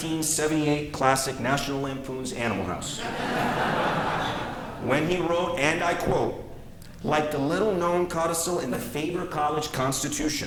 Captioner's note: laughter